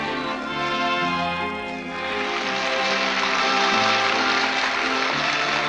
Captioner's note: applause